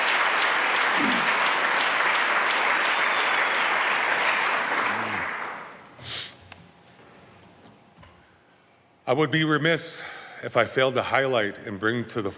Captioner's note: applause